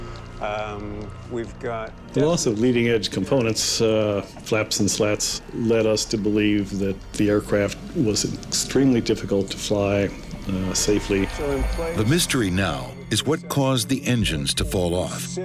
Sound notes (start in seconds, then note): 5.4 jet whooshing; 8.2 explosion booms